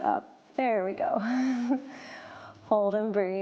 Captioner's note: laughs